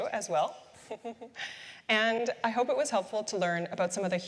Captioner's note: chuckles